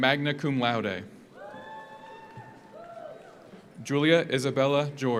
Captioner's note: audience cheers; audience applauds